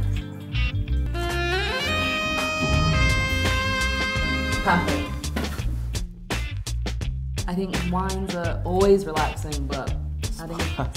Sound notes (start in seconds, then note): 2.4 deep groan